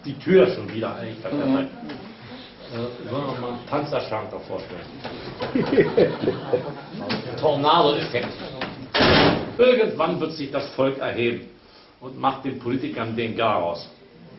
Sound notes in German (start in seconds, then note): 5.4 lacht